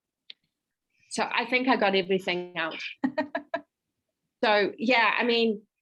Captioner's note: laughs